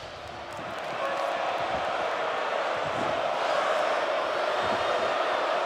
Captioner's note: crowd cheers and chants